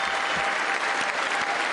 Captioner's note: applause